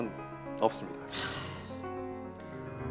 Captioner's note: sighs